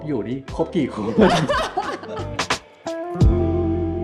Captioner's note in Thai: เสียงหัวเราะ